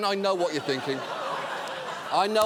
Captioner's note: audience laughing